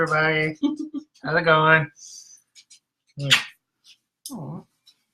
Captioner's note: kisses loudly